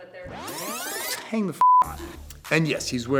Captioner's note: beep